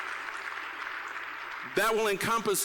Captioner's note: applause